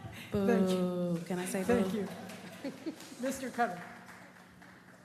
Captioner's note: laughter